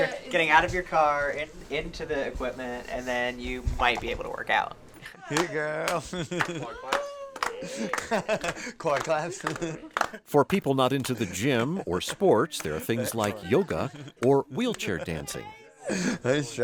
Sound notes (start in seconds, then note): 6.5 laughing; 7.5 clapping